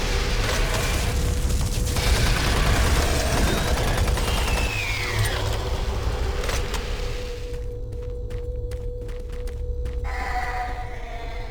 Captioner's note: gunfire